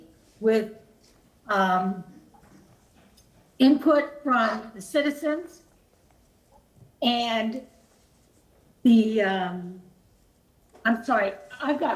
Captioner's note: ~distortion~